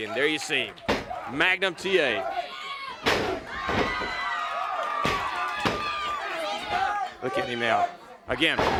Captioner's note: crowd chatter